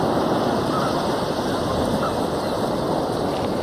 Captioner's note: birds chirping